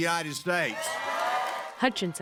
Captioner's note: cheering and applause